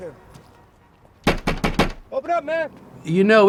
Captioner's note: knock knock